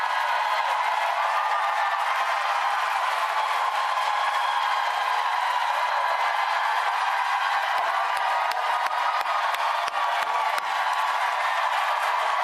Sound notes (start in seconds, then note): 8.7 applause